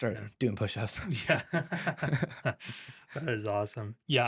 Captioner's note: both Laughing